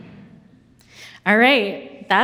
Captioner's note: audience chuckles